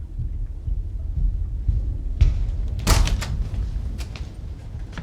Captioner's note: pounding sound